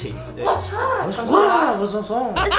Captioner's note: speaking French in Thai style?